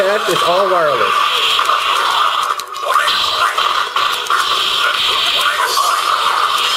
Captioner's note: electronic beeps and crashes